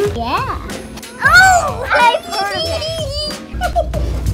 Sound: laughs; Elmo toy laughs

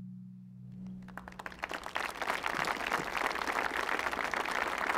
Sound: audience clapping

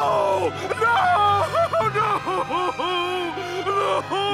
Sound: crying

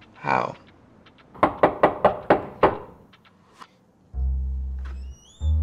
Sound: knock on door

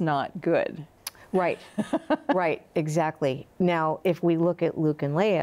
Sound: laughs

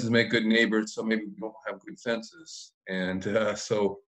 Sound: crackling drown out speaker

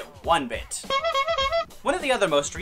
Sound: clown horn honks

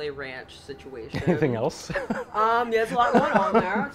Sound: laughs

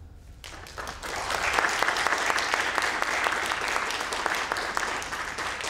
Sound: applause

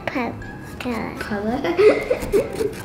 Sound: laughter

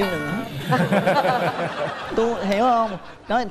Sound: laughs

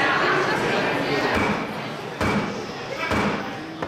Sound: gavel hitting sound block

